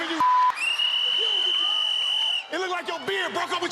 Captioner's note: whistle